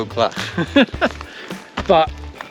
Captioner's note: laughing